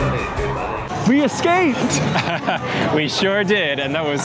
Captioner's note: laughter